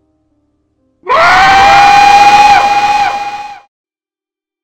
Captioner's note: echoing Screech